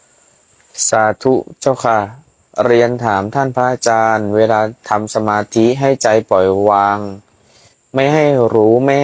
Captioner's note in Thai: เสียงสูดหายใจ